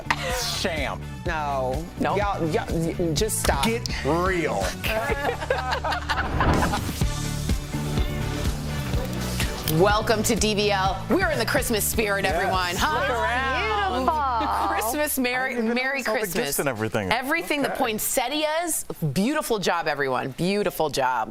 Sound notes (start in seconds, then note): 4.6 laughter